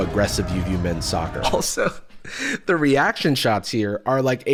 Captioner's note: laughs